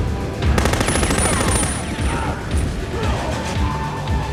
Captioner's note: machine gun firing